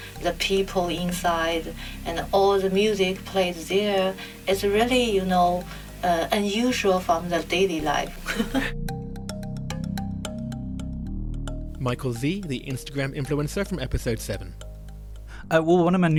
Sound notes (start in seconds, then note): 8.1 voiceover